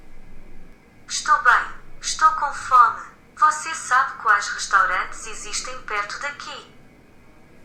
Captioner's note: translator device speaking in foreign language